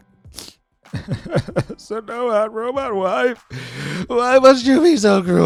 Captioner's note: sobbing